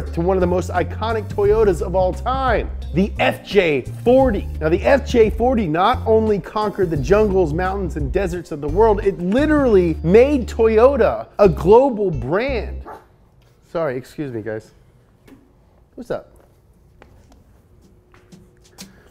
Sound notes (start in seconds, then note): 12.8 barks